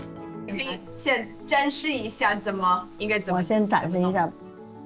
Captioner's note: speaking foreign language